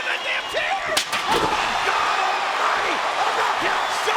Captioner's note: chair slams